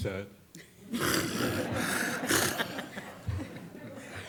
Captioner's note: all laughing